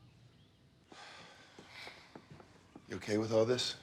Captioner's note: both sigh